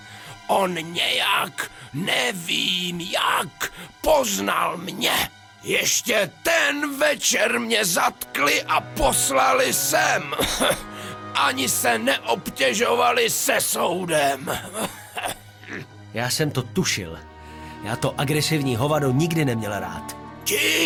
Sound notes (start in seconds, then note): 8.4 cough